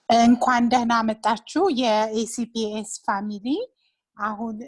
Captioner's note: woman speaking in Amharic